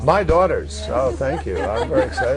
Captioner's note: laughter